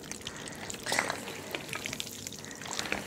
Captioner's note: stirring noises